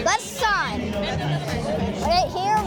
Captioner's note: crowd chatter drowns out announcer